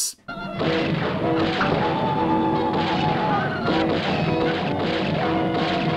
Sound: guns shooting; natives hollering

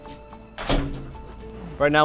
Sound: door closing

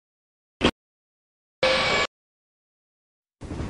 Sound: bip

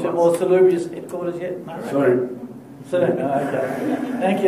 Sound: laughter

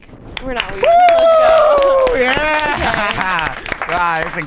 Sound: cheering and applause

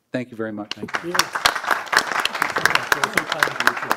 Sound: applause

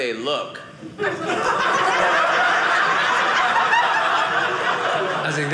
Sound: audience laughing

